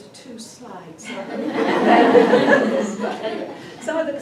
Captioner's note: laughter